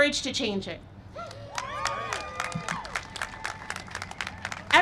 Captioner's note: cheering and applause